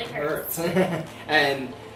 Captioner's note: laughs